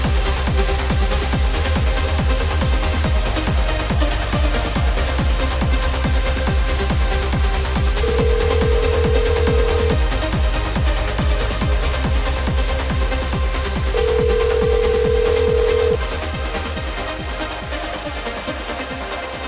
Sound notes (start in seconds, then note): 7.7 energetic music; 8.0 dial tone ringing; 13.9 dial tone ringing; 14.4 energetic music